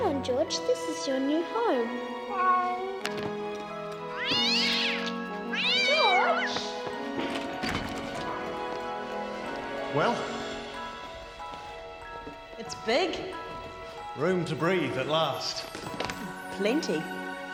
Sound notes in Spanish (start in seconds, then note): 2.5 gato maullando; 4.0 gato chillando